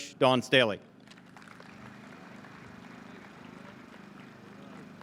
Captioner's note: audience claps